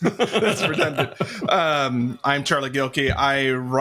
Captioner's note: both laughing